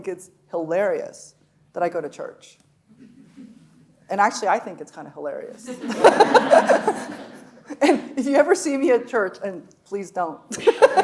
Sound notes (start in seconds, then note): 5.6 audience laughing; 5.7 laughing; 10.6 audience laughing; 10.8 laughing